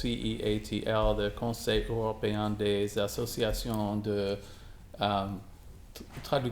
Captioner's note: speaking in foreign language